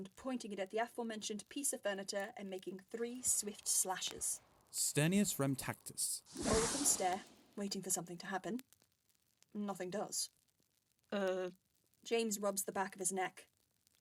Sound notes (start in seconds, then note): 6.2 swishy spell swoop